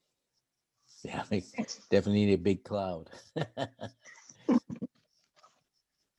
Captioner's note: chuckling